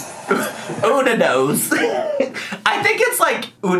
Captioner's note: laughs